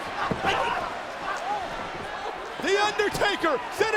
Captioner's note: crowd cheering